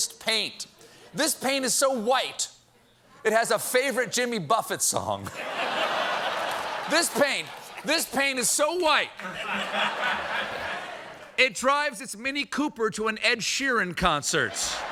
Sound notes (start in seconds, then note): 5.4 laughter